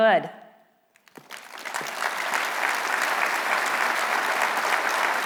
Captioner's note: applause